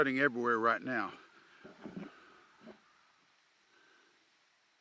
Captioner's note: crows cawing